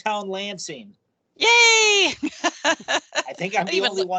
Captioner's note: laughing